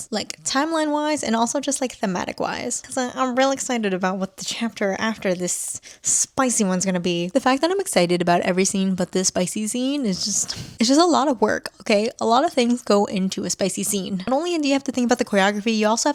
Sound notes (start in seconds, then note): 10.4 sighs